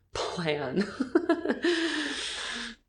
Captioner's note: laughing